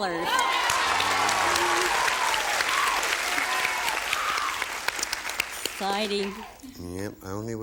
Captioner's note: applause